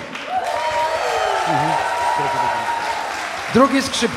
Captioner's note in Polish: aplauz